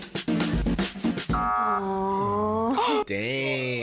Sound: buzzing sound

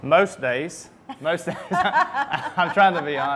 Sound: laughing

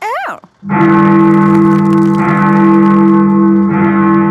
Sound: bell tolling

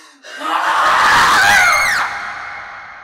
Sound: angry, savage scream; terrified scream

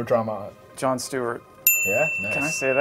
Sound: bell rings

